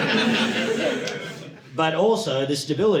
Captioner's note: audience laughing